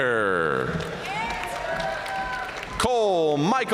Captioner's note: audience cheering and applauding